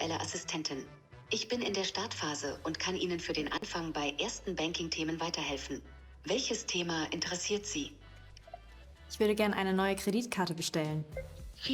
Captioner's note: non-English speech